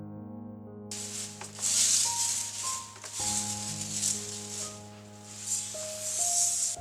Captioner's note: rustle